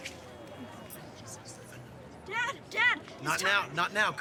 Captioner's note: Colton whispering; James whispering